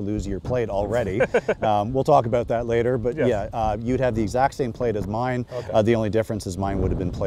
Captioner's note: laughing